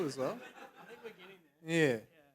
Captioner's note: laughter